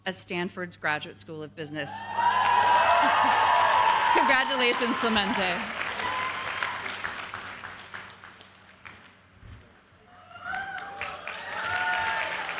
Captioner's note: cheers and applause